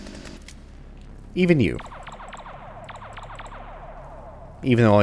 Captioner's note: pew pew pewing